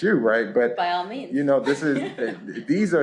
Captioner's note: laughter